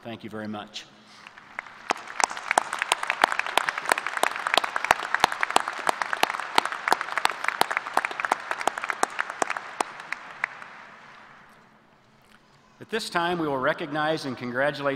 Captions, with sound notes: our faculty from the college of age please stand and be recognized at this time? Thank you very much. [ APPLAUSE ]